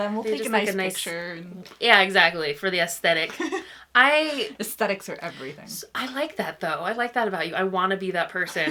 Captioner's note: laughs